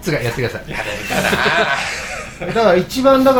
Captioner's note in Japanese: 笑い